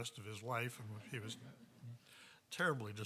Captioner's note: audience chuckling